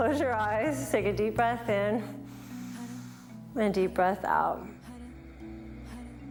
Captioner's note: breathes